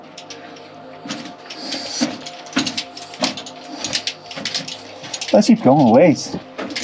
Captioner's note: footsteps and gear rustling